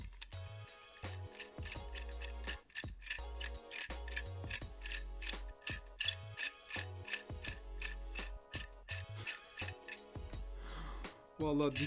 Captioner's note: screw turning sound